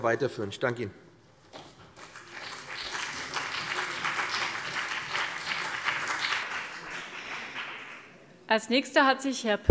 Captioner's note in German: Beifall BÜNDNIS 90/DIE GRÜNEN und CDU